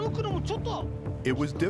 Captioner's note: speaking Japanese